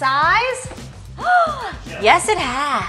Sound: gasp!

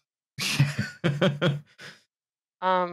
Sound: laughter

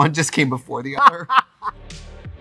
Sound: Katya laughs; upbeat music

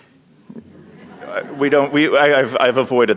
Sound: audience laughing

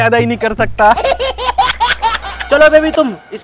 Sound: laughter

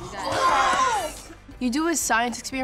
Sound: cheering

